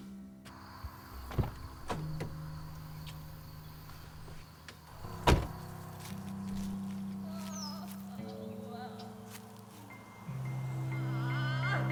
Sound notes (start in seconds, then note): 0.2 ominous music; 7.6 woman crying